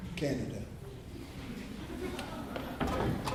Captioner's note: laughter